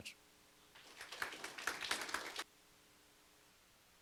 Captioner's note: audience claps